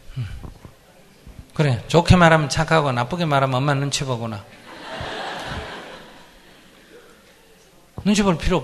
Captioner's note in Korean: 청중 웃음